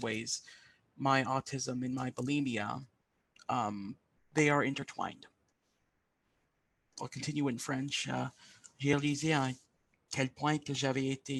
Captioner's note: speaking French